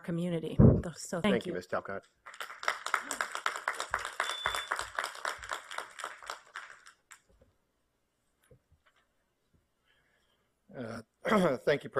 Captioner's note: applause